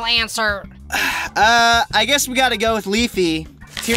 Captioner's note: exhale